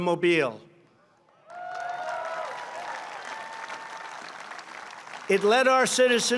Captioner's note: applause